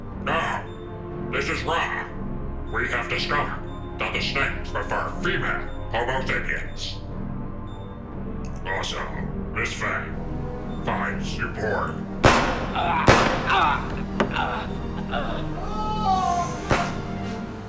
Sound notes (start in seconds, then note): 12.2 guns firing; 15.7 victim screaming